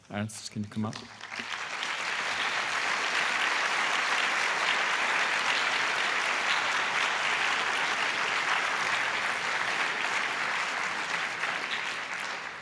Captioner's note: applause